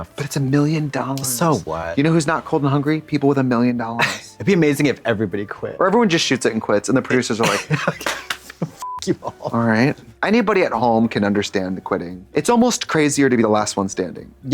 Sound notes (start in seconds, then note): 7.4 giggles; 8.8 beep